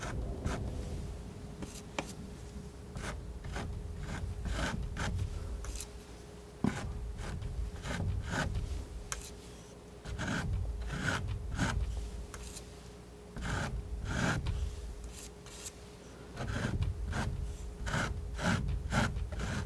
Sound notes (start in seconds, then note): 6.3 scratching